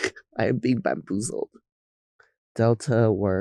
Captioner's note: chuckling